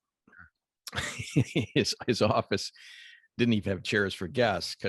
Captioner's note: laughs